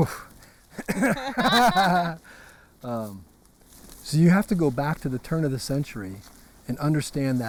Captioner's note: laugh